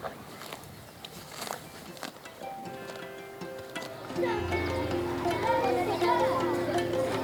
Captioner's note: bright lively music; children chattering